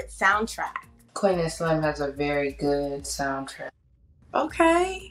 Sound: faintly speaking

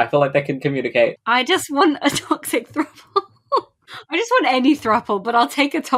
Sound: laughing

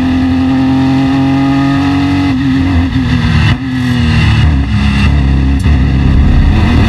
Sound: car engine

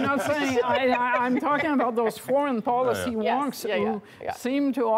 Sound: laughter

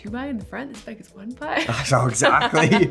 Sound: laughs

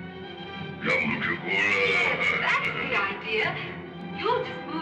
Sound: caveman speaking

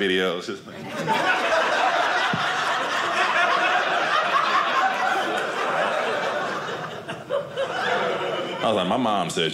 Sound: audience laughing

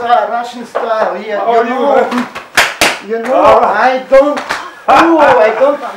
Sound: slapping sounds

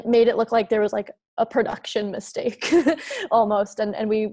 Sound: giggles

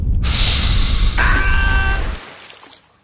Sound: hiss

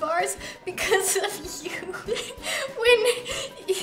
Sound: laughs

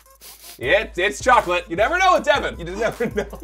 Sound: sniffing

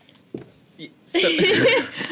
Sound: laughter

